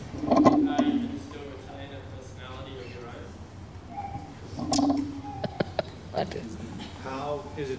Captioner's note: laughs